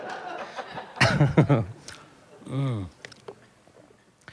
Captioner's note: laughs